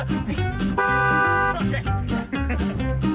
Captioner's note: car honks loudly